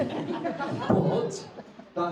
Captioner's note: audience laughs